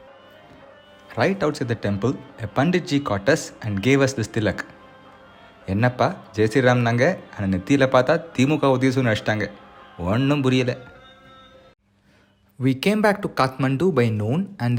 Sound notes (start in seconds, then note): 4.9 in Tamil